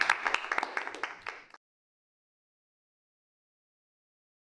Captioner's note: audience applause